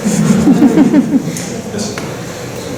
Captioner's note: laughter